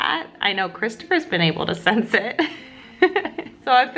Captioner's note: laughs